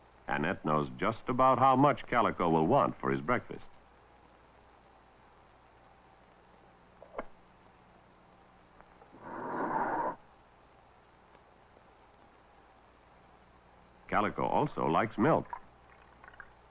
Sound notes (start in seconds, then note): 9.2 door slides